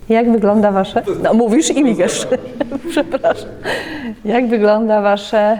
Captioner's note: laughs